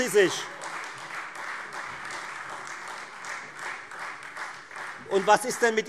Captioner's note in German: Beifall Freie Demokraten